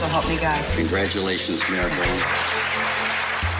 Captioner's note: audience applauding